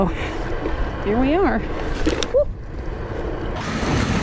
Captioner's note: thud